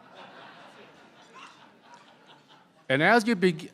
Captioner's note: laughter